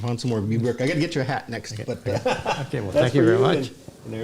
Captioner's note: laughs